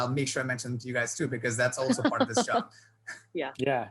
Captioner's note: laughing